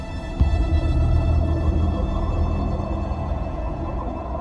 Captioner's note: water warbling